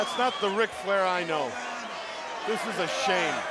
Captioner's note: crowd cheering